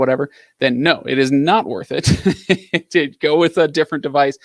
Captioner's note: laughs